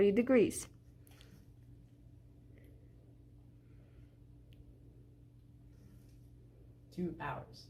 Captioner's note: players discuss in whispers